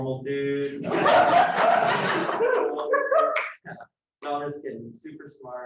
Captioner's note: loud laughter